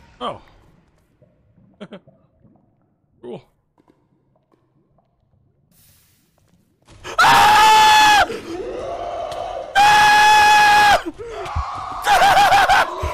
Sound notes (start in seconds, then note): 0.8 giggles; 3.6 lava bubbles; 7.1 screams; 8.4 monster growls; 9.8 continues screaming